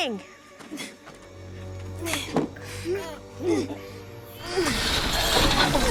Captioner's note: grunting